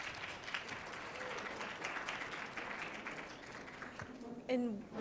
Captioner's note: applause